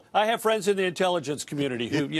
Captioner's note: laughter